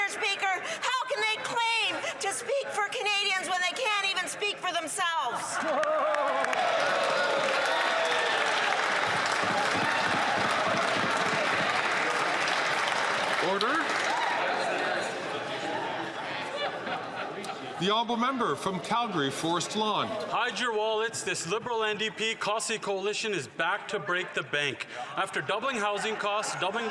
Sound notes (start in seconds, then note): 10.1 some Applause